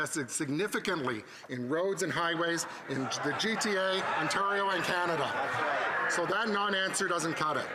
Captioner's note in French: voix de l'interprète